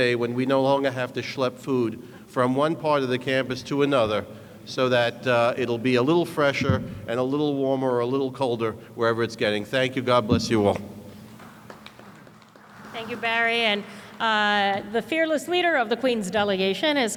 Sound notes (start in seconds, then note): 11.3 applause